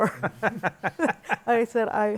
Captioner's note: laughter